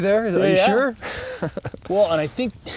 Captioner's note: laughs